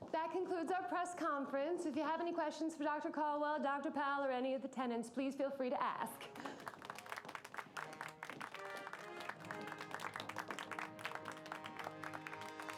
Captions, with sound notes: - That concludes our press conference. If you have any questions for Dr. Caldwell, Dr. Powell, or any of the tenants, please feel free to ask. (clapping)